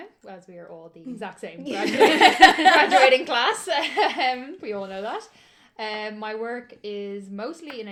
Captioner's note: laughter